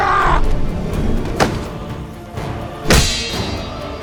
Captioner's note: grunts